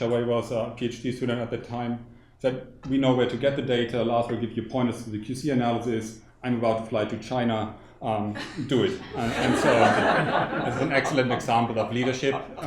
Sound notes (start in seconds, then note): 8.4 audience laughing